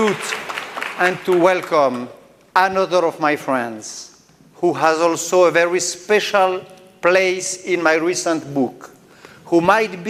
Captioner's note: applause